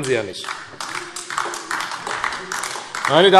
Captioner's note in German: Beifall AfD - Zurufe